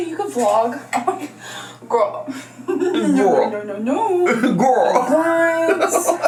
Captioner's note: laughs